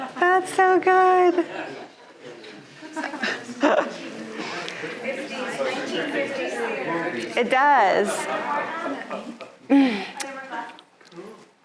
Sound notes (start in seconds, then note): 0.0 audience laughing; 2.9 audience chattering